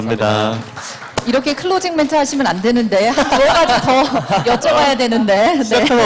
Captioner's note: laughs